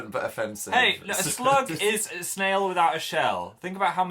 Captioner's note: chuckles